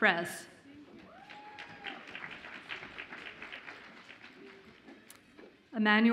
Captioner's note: audience applauds and cheers